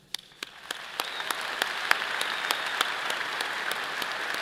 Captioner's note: all applauding